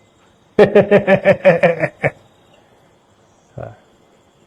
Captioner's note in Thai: เสียงหัวเราะ